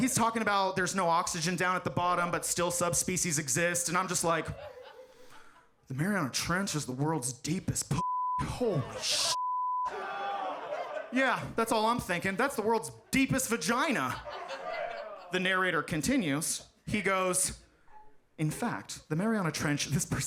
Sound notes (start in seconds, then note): 8.0 beep; 9.9 audience laughs